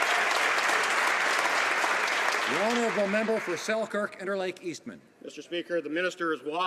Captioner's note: some Applause